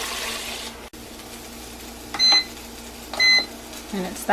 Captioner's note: beeping